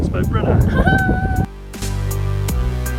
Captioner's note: laughs